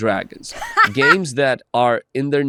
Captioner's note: laughs